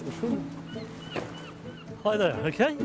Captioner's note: seagulls crying